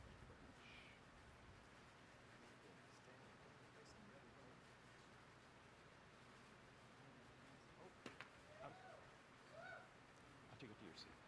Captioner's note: applause